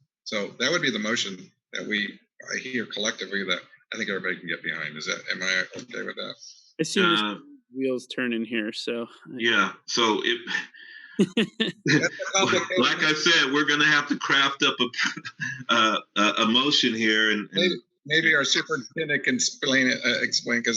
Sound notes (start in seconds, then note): 9.9 laughs